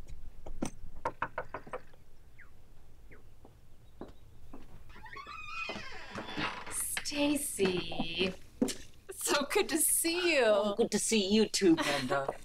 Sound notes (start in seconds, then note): 0.8 knuckles tapping